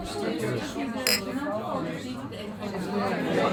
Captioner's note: clinking of glasses